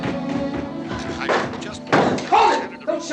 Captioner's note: radio continues